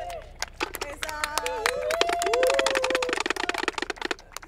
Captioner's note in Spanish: Aplausos